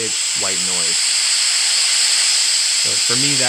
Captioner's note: bright static plays